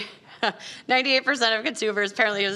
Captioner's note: laughing